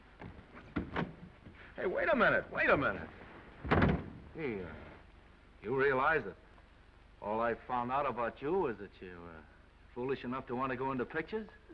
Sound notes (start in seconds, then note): 0.6 door unlatching; 3.6 door slams